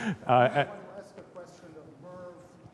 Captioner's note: laughter